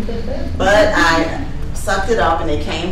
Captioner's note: participants laughing